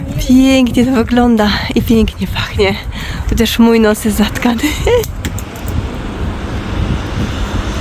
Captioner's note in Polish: śmiech